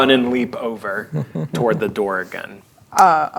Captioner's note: chuckling